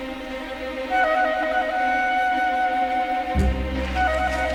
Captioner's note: Aplausos